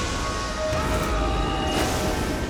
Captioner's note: a braggart’s roar